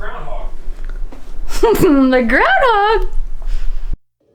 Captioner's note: laughs